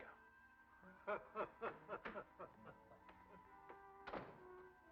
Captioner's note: Steel laughs